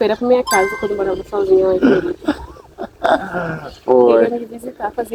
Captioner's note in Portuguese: risadas